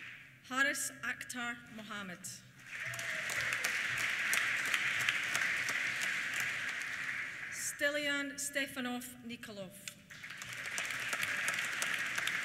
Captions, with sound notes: Haaris Akhtar Mohammed. (CHEERS) (APPLAUSE) Stilyan Stefanov Nikolov. (APPLAUSE)